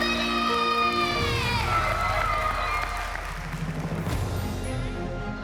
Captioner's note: cheering and applause